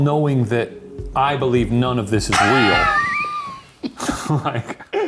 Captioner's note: wheeze laughs